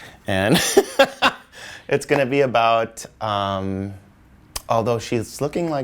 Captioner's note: laughs